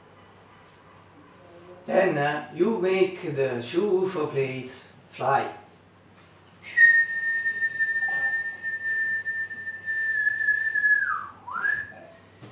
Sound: whistle

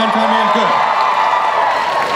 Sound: crowd cheers

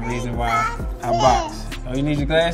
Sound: babytalk

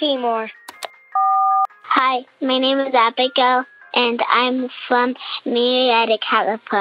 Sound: soundbite of beep

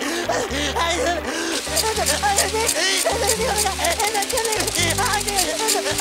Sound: sprinkler noises

